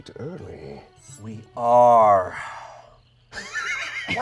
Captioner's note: sighs; laughs